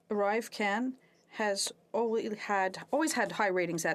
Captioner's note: speaking French